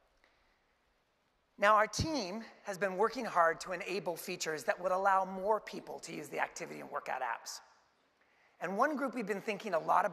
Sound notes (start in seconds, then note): none